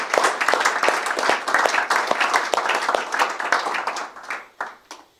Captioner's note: applause